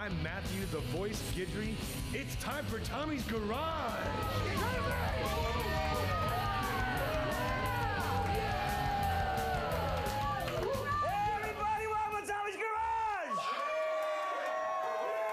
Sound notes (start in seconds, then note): 4.1 upbeat rock music; 9.7 audience cheering; 9.7 upbeat rock music